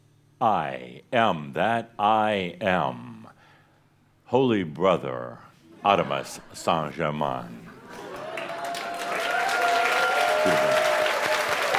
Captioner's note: audience cheers and applause